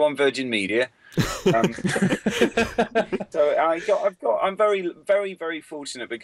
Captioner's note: laughter